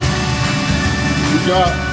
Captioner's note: engine idling